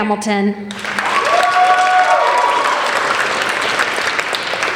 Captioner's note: applauding